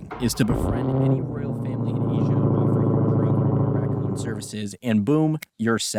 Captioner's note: a Hellcat starts up outside